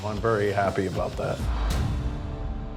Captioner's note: thuds